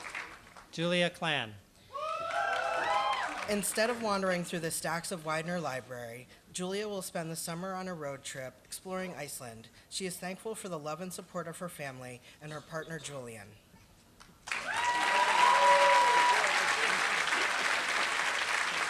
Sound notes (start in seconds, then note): 14.4 applause